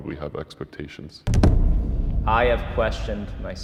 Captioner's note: intense boom